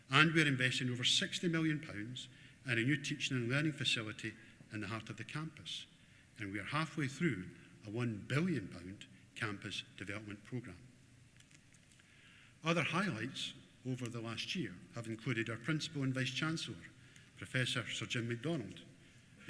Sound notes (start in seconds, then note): none